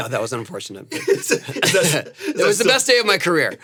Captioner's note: Anthony laughs